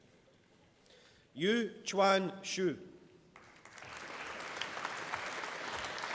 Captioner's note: applause